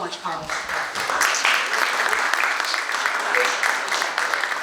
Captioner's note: audience applauding